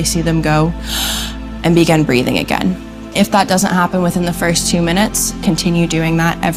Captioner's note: takes a breath